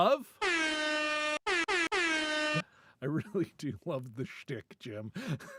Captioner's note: horn blares